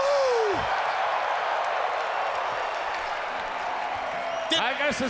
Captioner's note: crowd cheering